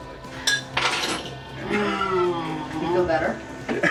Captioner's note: she groans